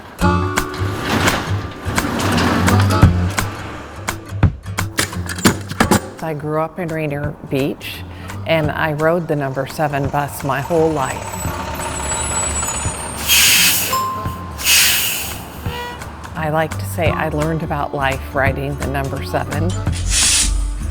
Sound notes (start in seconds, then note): 13.7 announcement bell chimes